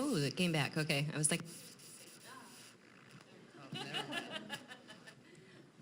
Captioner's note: mic cuts out